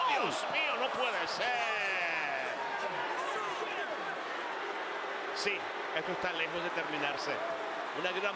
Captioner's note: applause